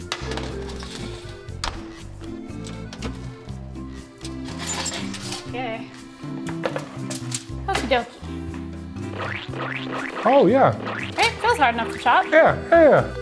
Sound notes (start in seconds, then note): 0.2 metal clanking; 2.5 oven opening; 9.2 mixture squishing